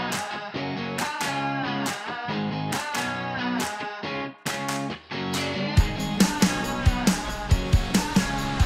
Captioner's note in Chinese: 鼓掌